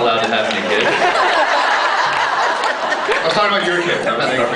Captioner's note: laughs